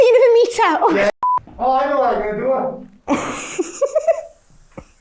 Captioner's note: giggling